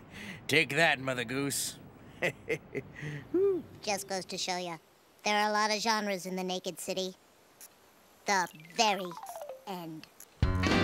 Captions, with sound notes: Take that, Mother Goose! ( laughs, hoots ) Just goes to show you there are a lot of genres in the naked city.